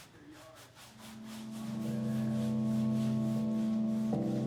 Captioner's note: cloth scraping; dramatic music